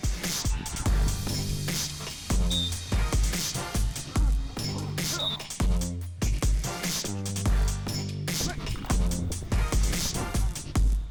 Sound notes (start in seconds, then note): 4.9 whistle blows, grunts